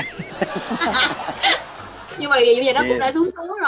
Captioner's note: laugh